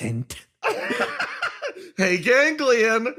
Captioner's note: laugh